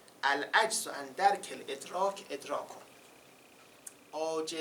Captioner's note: quoting Arabic